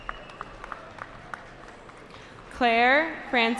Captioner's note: cheering